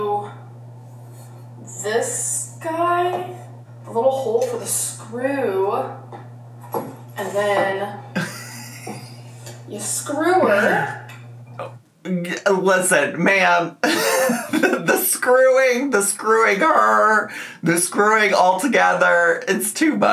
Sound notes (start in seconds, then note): 13.9 laughs